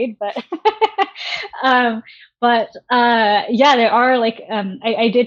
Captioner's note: laughing